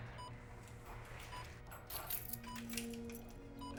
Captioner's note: keys jingling